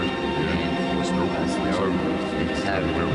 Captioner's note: none